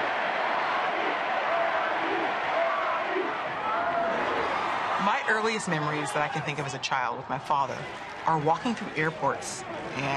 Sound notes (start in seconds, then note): 1.1 crowd